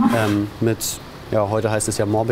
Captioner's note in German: Grunzen